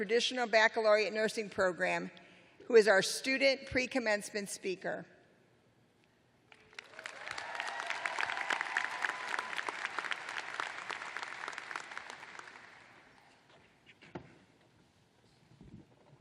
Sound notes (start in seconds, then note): 4.0 cheers and applause